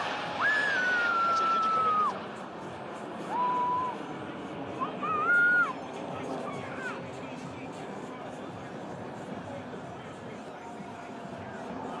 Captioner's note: yelling; cheering